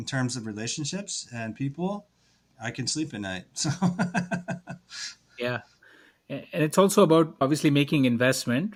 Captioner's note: laughs